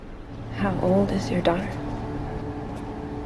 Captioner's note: voiceover